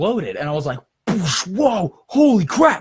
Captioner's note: makes exploding sound